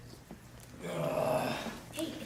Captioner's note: groans